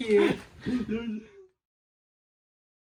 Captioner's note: giggles